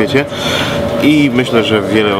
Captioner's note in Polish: wdech